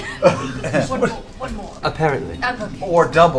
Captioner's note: laughter